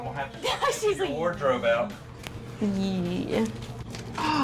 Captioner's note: laughs